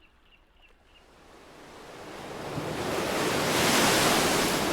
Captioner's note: waves crashing